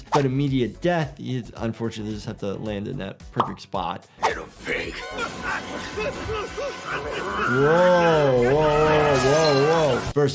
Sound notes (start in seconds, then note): 4.6 eerie music; 4.9 Miles Upshur yelling